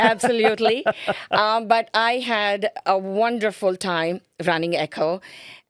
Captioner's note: laughing